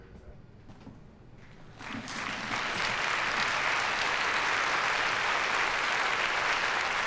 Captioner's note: applause